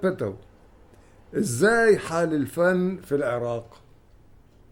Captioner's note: in Egyptian dialect